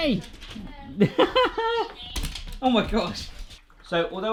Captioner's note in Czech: smích